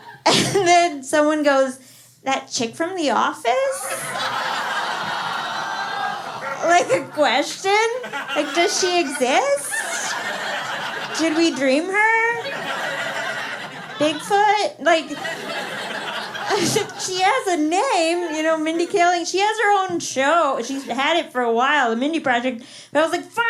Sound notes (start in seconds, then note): 3.5 laughter